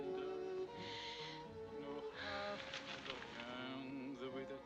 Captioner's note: inhales, exhales